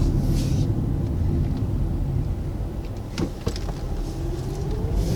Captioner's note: car engine whirring